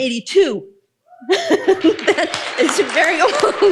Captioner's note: audience applauding